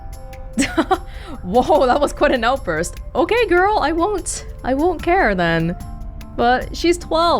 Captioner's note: chuckles